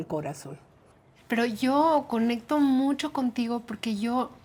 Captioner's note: speaking Spanish